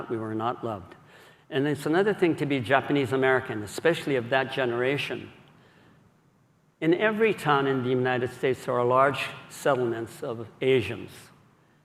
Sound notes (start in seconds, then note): none